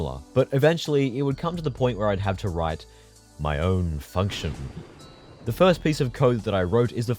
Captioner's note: thunder